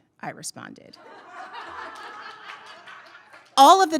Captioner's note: audience laughing